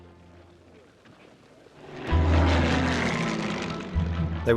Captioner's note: planes droning